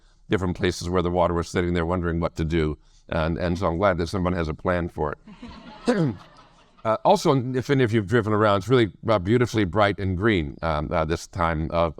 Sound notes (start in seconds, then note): 5.3 audience laugh